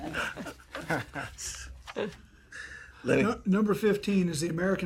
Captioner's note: laughter